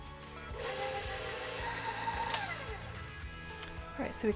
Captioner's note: mixer roaring